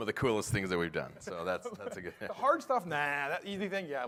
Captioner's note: laughter